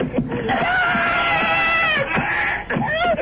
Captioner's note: screaming